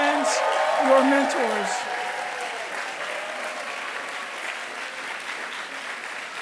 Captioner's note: applause